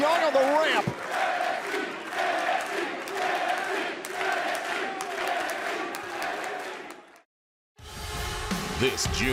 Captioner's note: crowd cheering